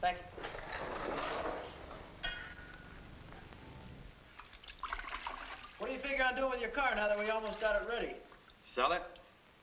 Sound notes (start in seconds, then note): 4.3 water splashing